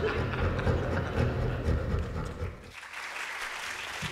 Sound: laughter & Applause

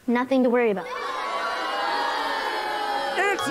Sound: booing

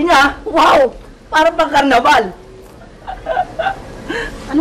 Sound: laughs

